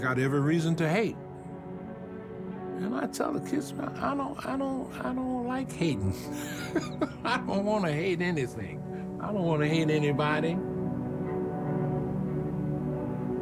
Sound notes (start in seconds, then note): 5.9 laughs